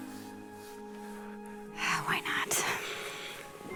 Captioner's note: sighs